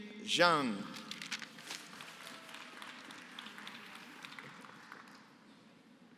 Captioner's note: applause